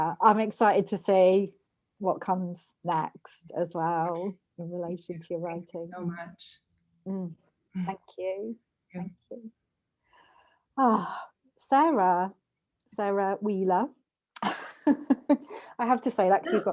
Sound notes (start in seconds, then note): 14.4 laughter